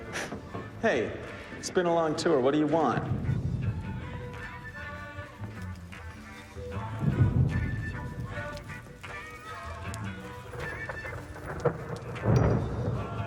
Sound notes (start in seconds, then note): 0.3 scoffs; 3.7 thunder rumbling over muffled pleasant rock music